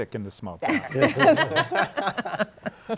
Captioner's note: laughter